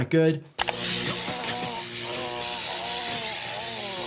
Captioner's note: electricity buzzing